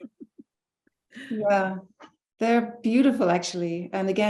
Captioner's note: chuckling